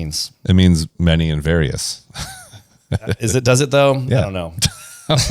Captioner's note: laughs; laughs